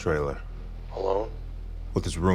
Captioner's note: on phone